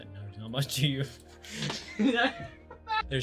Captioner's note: falling on the floor laughing